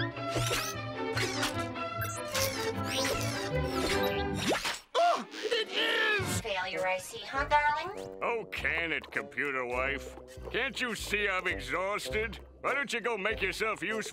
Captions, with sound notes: [whirring] Oh, it is! ...failure, I see, huh, darling? Oh, can it, computer wife. Can't you see I'm exhausted? Why don't you go make yourself useful